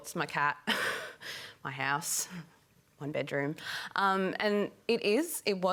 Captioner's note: laughs